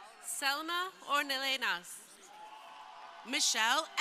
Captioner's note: crowd cheering